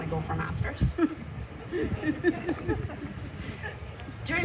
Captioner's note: laughter